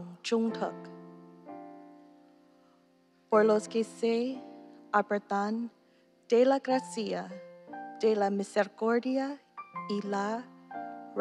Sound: speaking non-english

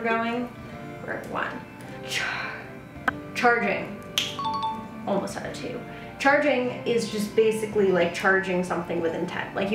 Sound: snap

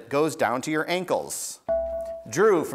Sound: buzzer beeps

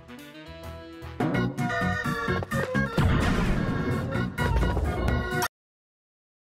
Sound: funhouse noises

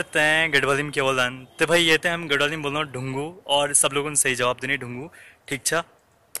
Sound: in Garhwali

